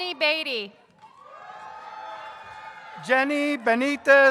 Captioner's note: audience cheers